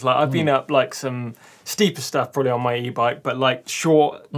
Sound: none

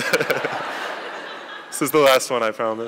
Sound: laughing

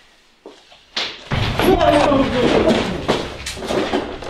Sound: loud bang

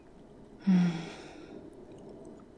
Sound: she exhales softly, completely relaxed

